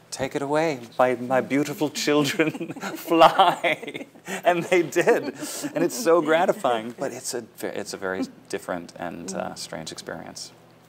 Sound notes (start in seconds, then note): 4.3 laughter